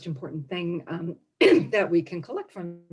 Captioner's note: coughs